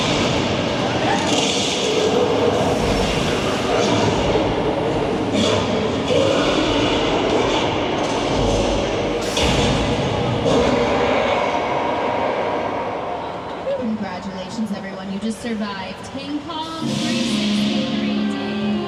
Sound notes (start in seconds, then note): 6.6 Kong roaring